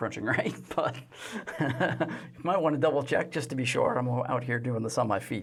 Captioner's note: laughs